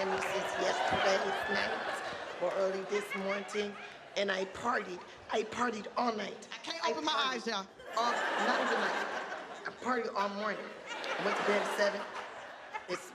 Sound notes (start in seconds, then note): 7.8 audience laughing